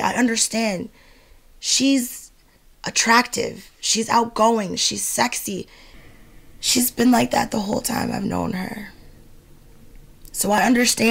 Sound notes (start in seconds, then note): 2.2 slow rhythmic music; 5.7 James exhales